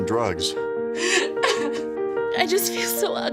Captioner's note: woman sobbing